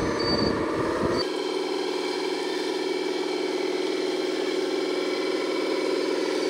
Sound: skid-steer engine revving

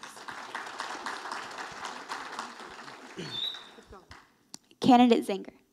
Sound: audience applauding

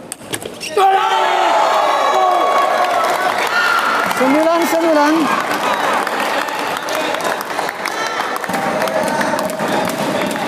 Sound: applause

